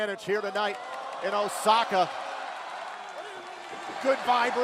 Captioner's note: crowd cheering